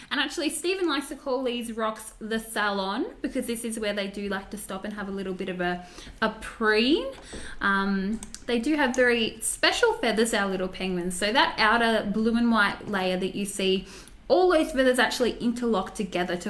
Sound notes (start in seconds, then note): none